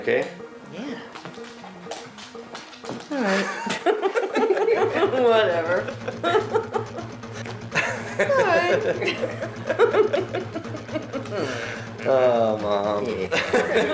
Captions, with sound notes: - You okay? - Yeah. All right. (all laughing) Whatever. (laughs) (all laughing) - Oh, mom.